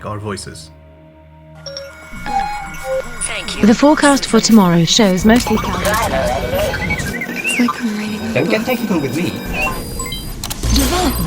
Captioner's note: AI voices